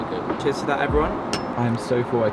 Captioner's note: glass clinks